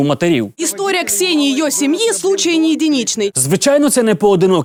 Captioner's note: spoken in Russian